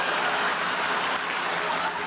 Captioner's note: laughter, applause